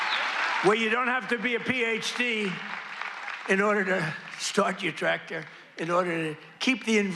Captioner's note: applause